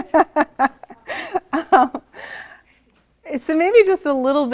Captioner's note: laughs